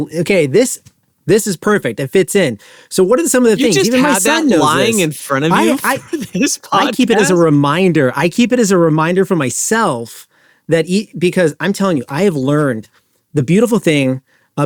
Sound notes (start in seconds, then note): 3.5 laughs